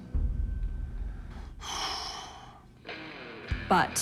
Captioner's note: exhales sharply